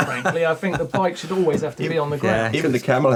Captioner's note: laughing